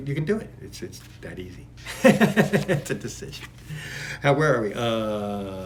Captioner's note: laughs